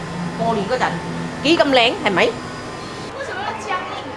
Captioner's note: Cantonese